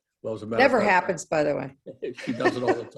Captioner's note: laugh